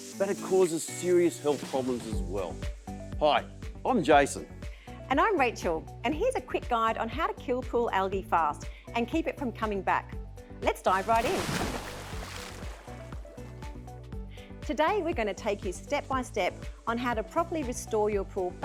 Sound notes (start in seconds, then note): 10.8 water sploshes